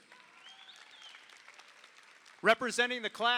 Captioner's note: audience applauds